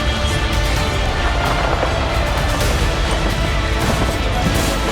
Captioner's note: yelling and explosions